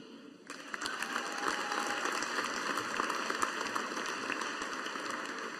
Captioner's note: audience applauding